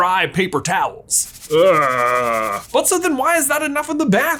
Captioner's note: paper towel scratching